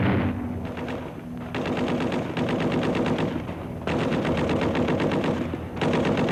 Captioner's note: machine gun fire